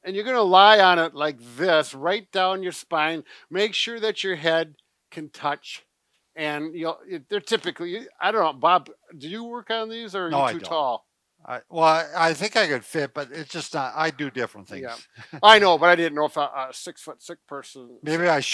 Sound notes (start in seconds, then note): 14.6 chuckles